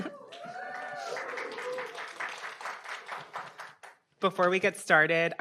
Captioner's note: audience cheering and applauding